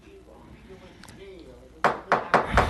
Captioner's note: gavel